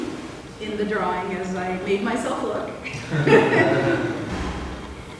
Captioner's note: laughter